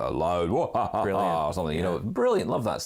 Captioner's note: laughs menacingly